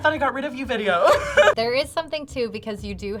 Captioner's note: both laugh